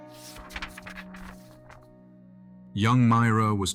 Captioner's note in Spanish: Pasando páginas